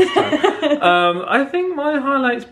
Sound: chuckling

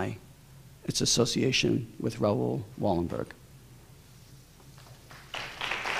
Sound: applause

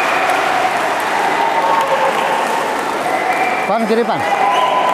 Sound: applause

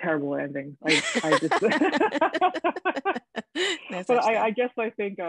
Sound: both laughing

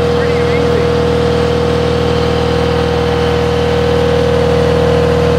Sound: machine drowns out man's voice

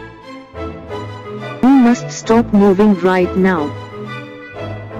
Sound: Indian accent

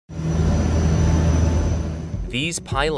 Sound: plane engine whirring

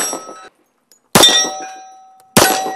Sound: bang

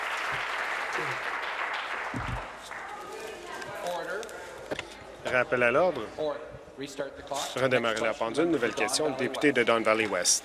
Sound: applause

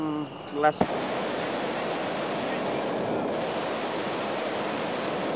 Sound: air whooshing

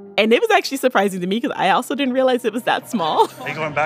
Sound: laughs; chuckles

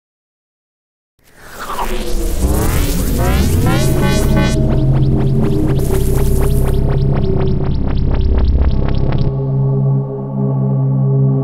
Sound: sound of morphing

